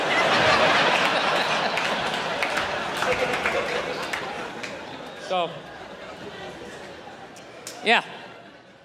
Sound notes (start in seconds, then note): 0.0 crowd laughing